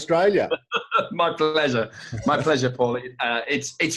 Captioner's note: laughs